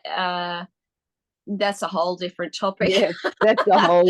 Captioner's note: both ladies laugh